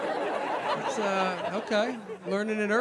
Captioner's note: audience laughing